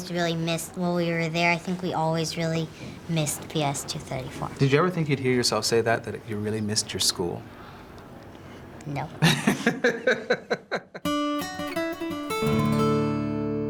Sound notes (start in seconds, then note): 9.2 LeVar laughs; 11.1 gentle music